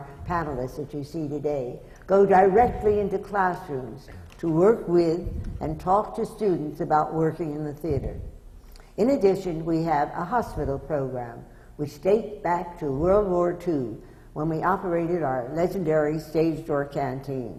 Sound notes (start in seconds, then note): none